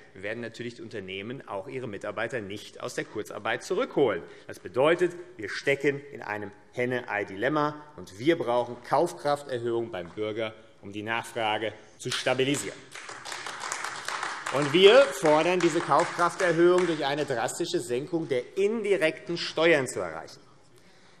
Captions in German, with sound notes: werden die Unternehmen natürlich ihre Mitarbeiter nicht aus der Kurzarbeit zurückholen. Das bedeutet, wir stecken in einem Henne-Ei-Dilemma. Wir brauchen Kaufkrafterhöhung beim Bürger, um die Nachfrage zu stabilisieren. [Beifall AfD] Wir fordern, diese Kaufkrafterhöhung durch eine drastische Senkung der indirekten Steuern zu erreichen.